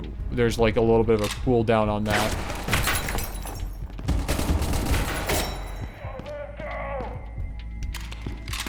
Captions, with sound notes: there's like a little bit of a cool down on that. (gunshots)